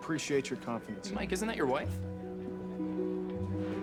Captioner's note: background chatter